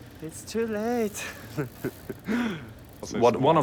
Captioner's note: laughs